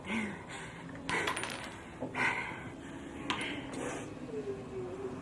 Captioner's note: Pat breathes laboriously